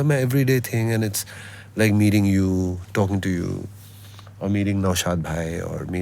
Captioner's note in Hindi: नाक से की जाने वाली आवाज़